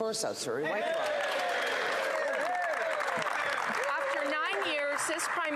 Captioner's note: some Applause